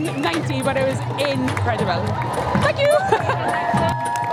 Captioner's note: laughs